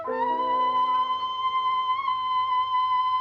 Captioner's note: yelling